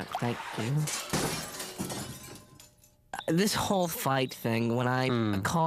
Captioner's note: crash